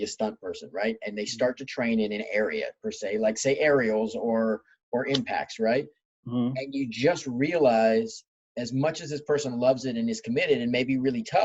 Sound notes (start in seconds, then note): none